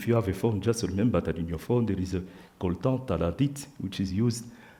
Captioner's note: speaks French